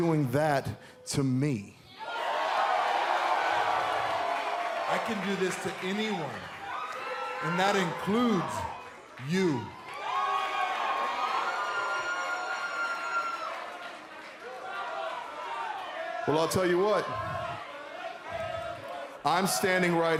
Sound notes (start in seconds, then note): 2.2 cheers and applause